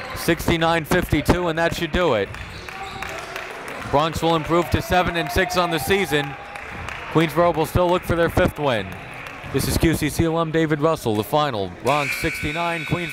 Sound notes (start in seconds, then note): 3.1 applauding; 11.9 bell dings